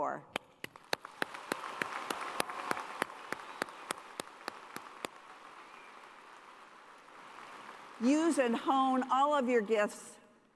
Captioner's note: cheers and applause